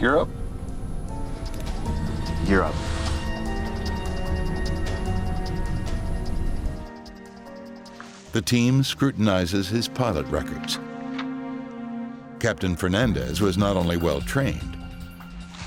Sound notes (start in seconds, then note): 3.2 airplane engine roaring; 4.6 sinister music